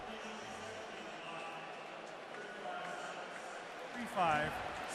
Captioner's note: pa announcement